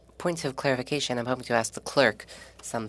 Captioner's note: speaking French